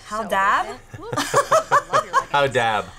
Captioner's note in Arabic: كلاهما يضحك